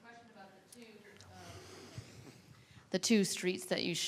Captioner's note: woman mumbling